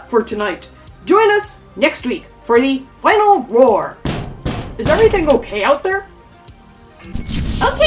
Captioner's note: random banging noises